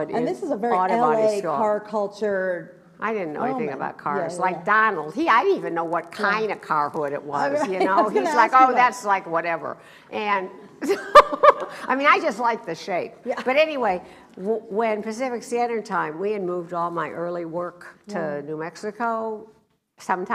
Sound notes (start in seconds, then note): 7.5 laughs; 11.7 laughs